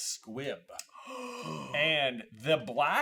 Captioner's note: gaaaaaaaaaaaaasp